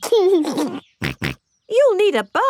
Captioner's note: giggles and snorts